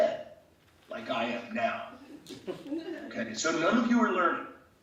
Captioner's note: laughing